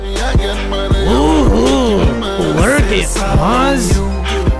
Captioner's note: chanting